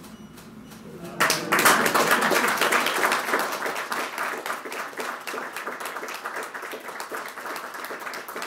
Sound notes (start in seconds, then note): 1.1 applause